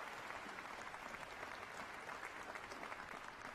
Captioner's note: applause